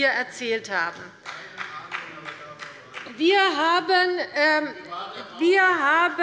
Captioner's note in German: Beifall der Abg